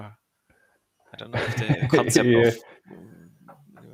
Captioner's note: laughing